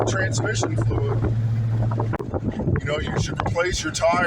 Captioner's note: wind buffeting